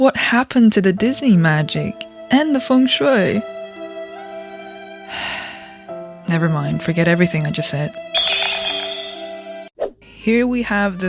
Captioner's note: sigh